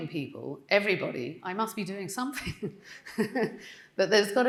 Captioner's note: laughing